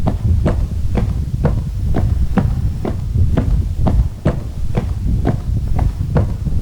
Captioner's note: footsteps